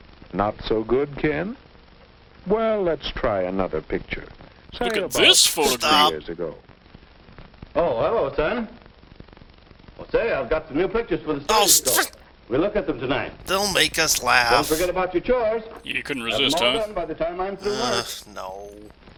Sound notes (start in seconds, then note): 16.0 grumbling